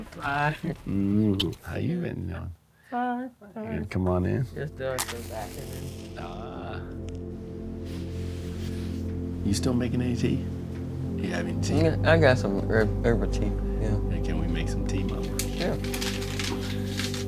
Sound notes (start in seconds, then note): 0.0 laughs; 4.9 match striking